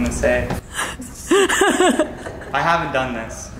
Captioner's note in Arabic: ضحك